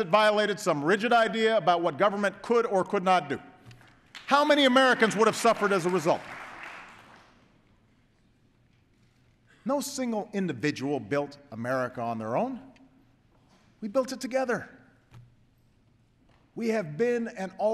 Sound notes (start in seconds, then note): 3.8 applause